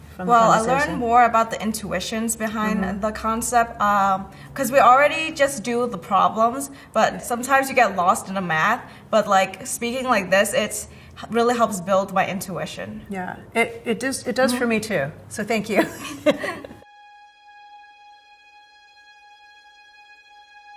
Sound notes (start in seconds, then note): 15.8 laughs; 17.1 gentle music